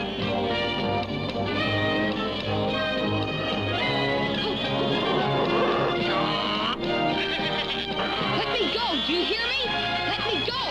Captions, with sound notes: [RAA-AAH] LET GO, YOU! LET ME GO!